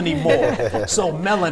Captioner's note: chuckling